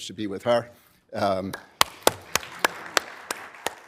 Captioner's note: applause